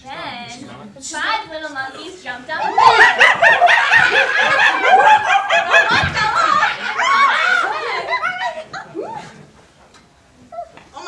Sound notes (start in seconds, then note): 4.2 monkey noises